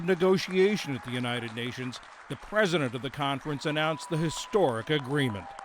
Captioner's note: applause